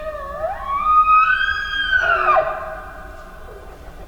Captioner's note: bull bugling